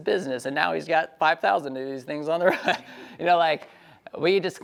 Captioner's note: laughs